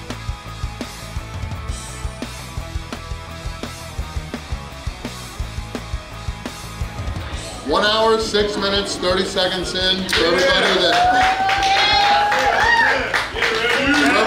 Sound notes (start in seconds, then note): 10.0 crowd cheering and applauding